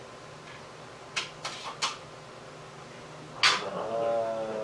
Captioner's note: aluminum crinkling